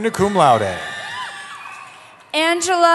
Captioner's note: cheering